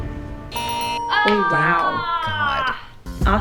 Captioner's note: suspenseful music; buzzer ringing; bells ringing